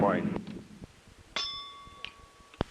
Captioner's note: bell Sound